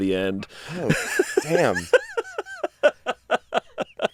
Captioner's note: laughing